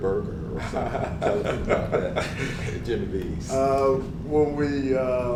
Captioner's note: laugh